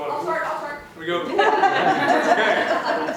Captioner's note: laughter